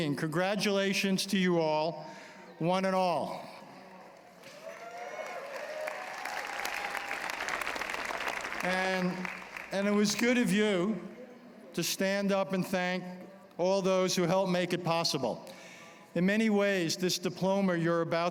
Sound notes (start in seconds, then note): 4.4 applause